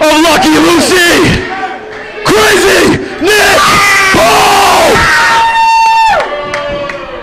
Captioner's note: scream